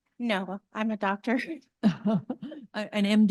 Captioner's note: laughter